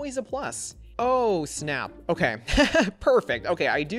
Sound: laughs

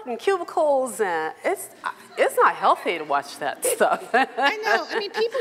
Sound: laughs

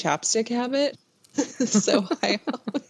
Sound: laughter

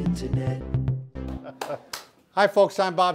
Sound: claps hands

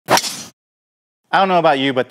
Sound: golf club swinging

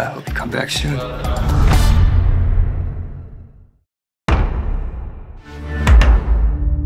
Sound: booming finale and logo crashing

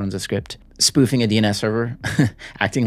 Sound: chuckles

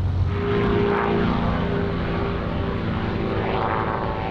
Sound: plane buzzes

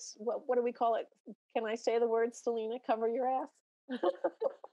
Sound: laughs

